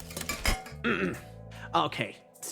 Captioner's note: clears Throat